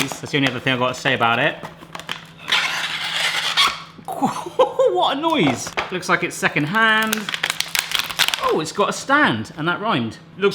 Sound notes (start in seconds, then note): 3.4 plastic scraping